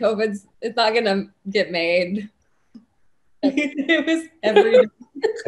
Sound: laughs

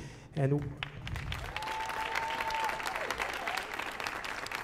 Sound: audience applauding

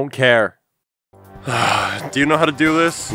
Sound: sigh

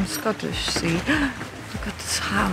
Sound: gasps

